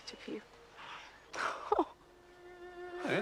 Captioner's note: Terkekeh